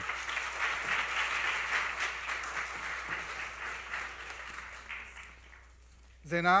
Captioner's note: applause